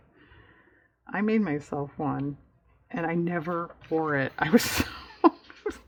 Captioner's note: laughs